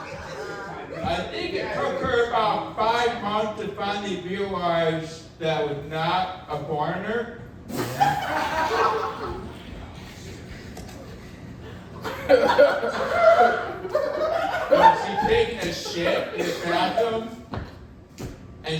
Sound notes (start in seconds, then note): 7.8 audience laughing